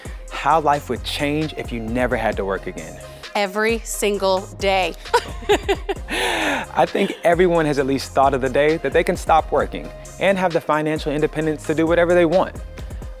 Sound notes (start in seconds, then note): 5.0 chuckling